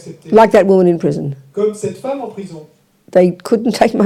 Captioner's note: audience member speaks in French